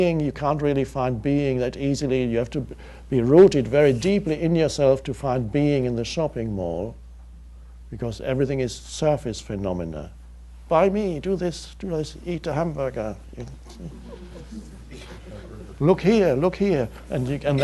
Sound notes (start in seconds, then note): 13.7 audience laughs